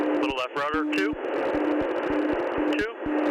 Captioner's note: alarm beeping